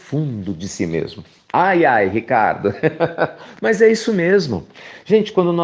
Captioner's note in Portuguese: risos